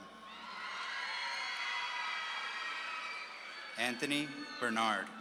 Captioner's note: audience claps and cheers